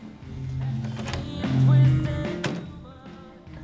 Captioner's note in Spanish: La puerta se habré y se cierra